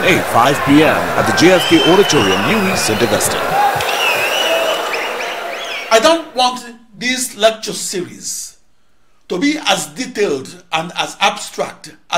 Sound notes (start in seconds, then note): 2.3 wild applause and cheering for 22 seconds